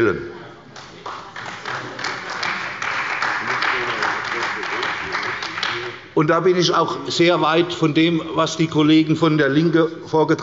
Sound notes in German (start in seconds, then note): 0.7 Beifall bei der CDU und dem BÜNDNIS 90/DIE GRÜNEN